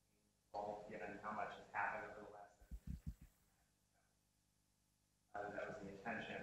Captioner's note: speaking off mic